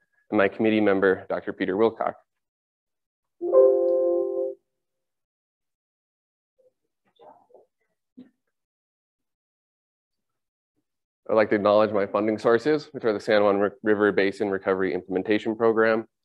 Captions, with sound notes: and my committee member, Doctor Peter Wilcock. [Windows error sound chimes over the speakers] I'd like to acknowledge my funding sources, which are the San Juan River Basin Recovery Implementation Program,